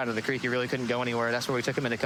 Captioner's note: sirens wailing